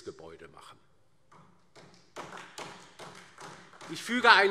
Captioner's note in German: Beifall